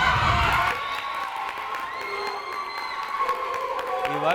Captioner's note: crowd cheering